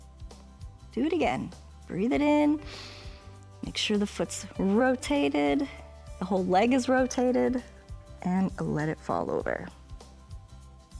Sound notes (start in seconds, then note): 2.6 inhales